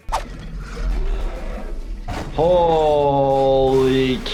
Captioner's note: Necromorph screams